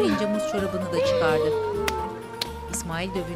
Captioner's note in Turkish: El vurma sesi